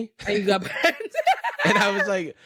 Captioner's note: laughs